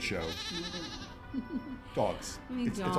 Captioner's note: animals sound; laughing